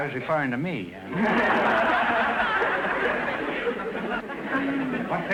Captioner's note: audience laughter